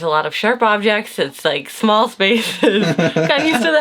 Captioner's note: laughs